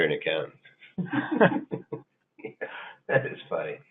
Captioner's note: chuckling